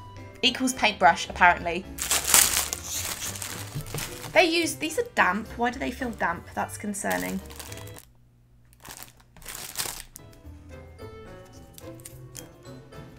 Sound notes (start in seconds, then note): 2.0 loud packet opening noises; 8.7 more ASMR packet noises